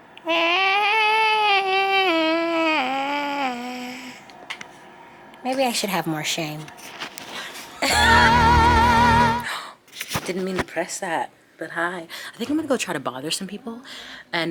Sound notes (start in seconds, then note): 0.2 vocalizing; 7.7 Jasmine chuckling; 8.0 jazzy music; 9.6 gasps